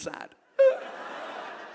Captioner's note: fake sobbing